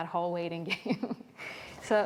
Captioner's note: chuckling